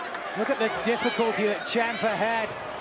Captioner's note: crowd cheering